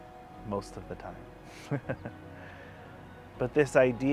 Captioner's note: laughs